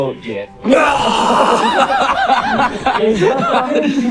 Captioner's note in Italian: vomita